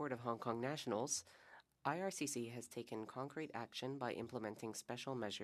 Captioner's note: speaking French